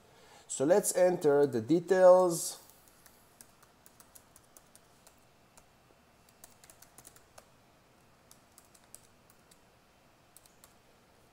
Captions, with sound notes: So let's enter the details. (keyboard clacking)